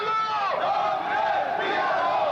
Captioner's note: crowd